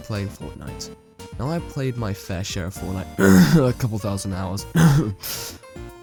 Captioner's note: cough